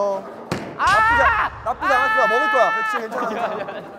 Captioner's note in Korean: 오열